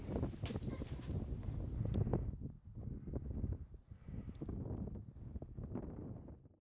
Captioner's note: wind blows softly